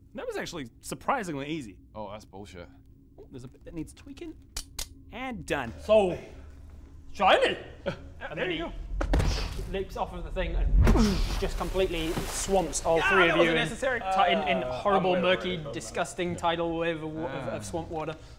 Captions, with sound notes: That was actually surprisingly easy Oh, that's bullshit Ooh, there's a bit that needs tweaking... And done. So...shiny! And then he *boosh* leaps off of the thing and *splash* just completely swamps all three of you Gah! That wasn't necessary in horrible, murky, disgusting tidal wave of swamp water